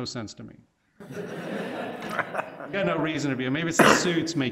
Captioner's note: laughing